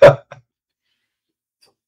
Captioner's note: laughing